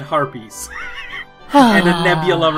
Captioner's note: sighs